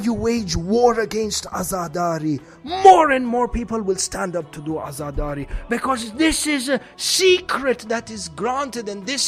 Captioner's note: mourning